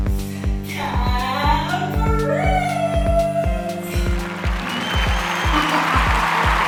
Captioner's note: clapping